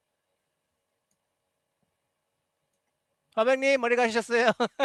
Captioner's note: non-english speech